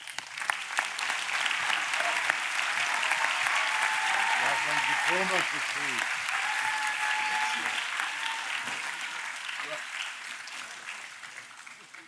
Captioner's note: applause